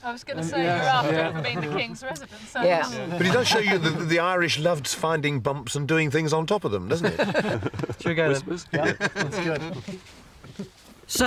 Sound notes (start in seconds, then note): 8.7 all chuckle